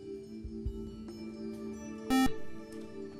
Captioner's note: buzzer